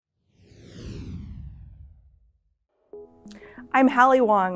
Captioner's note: logo whooshing